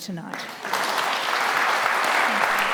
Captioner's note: applause continues